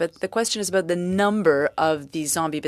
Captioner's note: speaking French